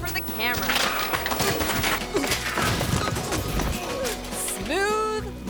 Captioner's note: bicycle clattering; people grunting